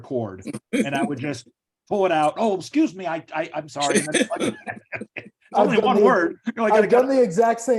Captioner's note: laughs